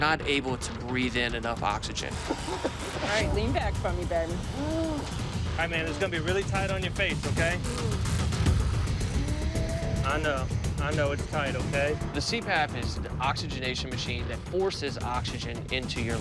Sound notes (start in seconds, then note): 2.1 coughing; 9.3 moaning